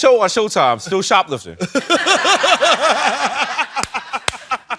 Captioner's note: laughing